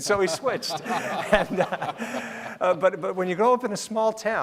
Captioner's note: laughing